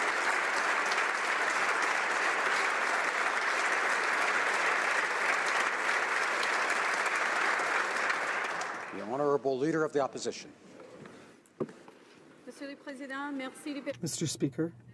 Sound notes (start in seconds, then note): 4.6 applause